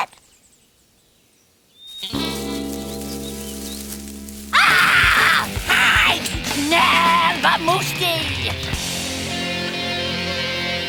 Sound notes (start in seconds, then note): 1.9 rustling; 4.5 screaming